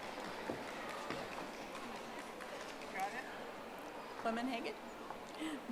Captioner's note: audience applauding